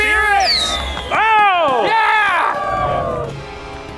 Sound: audience cheering; yelling; dramatic music

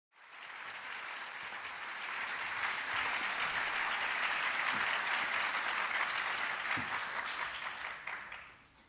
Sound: applause

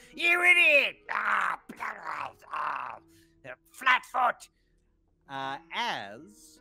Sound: grumbles

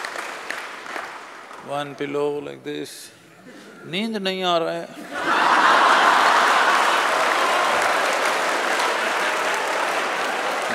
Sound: speaks in Hindi; laughter

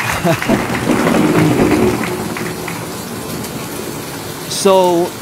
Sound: laughing; chairs dragging

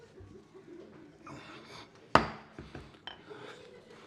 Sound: gavel

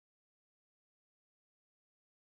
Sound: none

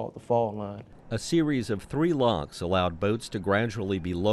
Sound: voiceover

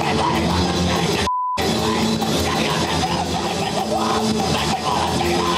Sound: band playing; band screaming unintelligibly

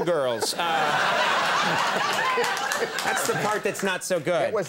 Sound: audience laughs

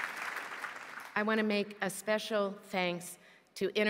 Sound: applause

